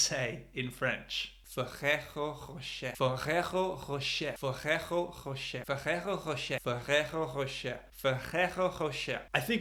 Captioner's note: bad french